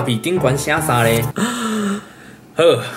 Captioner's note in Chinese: 倒抽